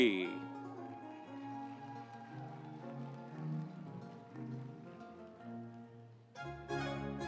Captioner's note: audience cheering; instrumental music